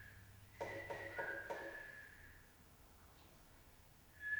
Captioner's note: pole thudding